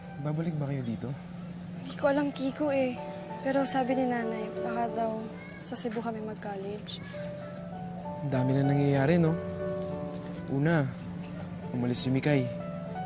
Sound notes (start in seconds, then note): none